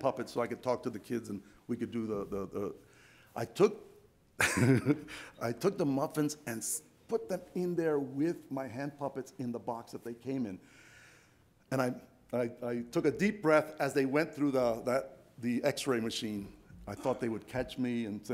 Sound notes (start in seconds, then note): 4.4 laughs